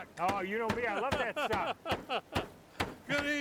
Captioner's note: tenderizer banging; laughing